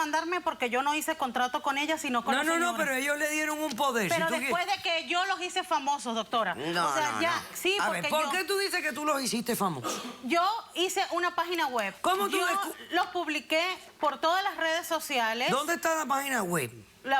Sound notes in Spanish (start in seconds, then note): 8.2 Hablan al unísono